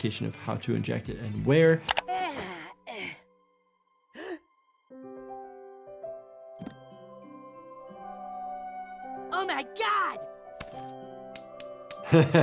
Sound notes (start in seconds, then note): 2.0 Cartman yawns; 4.1 Cartman gasps; 5.0 soft music; 10.6 hand slapping